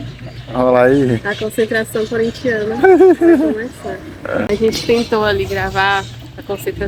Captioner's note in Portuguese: risadas